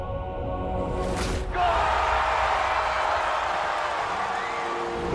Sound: crowd Cheers

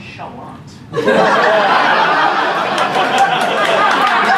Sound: laughter

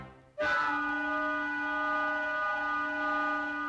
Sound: whistles Blow

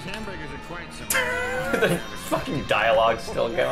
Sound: wheeze

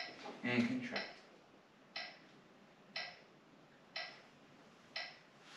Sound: metronome ticking

